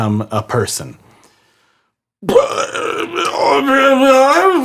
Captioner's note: grumbles